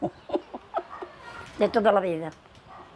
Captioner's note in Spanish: Ríe